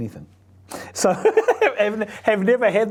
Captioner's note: laughs